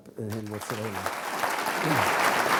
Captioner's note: laughing